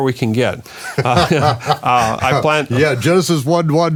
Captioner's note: laughing